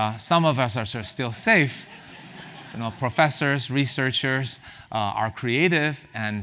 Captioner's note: laugh